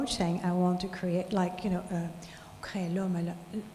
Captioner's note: speaking in foreign language